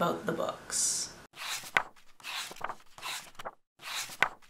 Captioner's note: pages turning